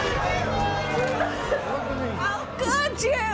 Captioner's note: audience gasping; sobbing